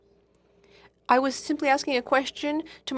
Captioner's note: speaking FRENCH